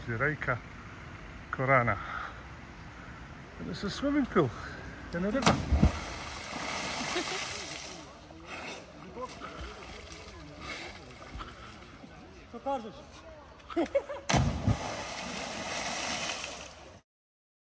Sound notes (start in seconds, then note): 7.1 laughter